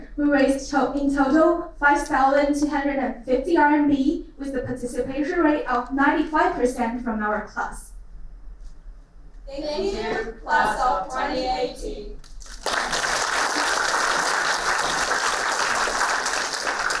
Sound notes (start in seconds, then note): 12.2 applauding